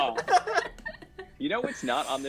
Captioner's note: laughter